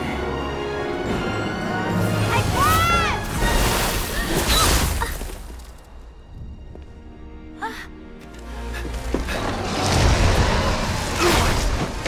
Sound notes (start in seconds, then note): 8.7 panting